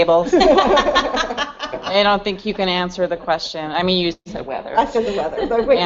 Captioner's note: laughter